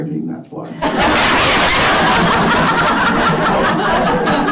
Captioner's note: laughter